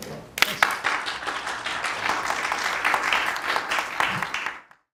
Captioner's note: applause